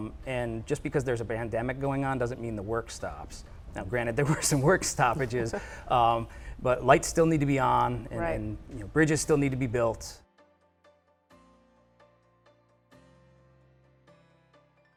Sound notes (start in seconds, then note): 4.3 laughs; 10.9 light upbeat music